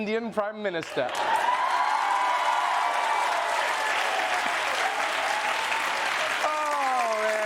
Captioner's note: cheering